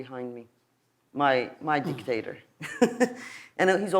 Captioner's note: laughs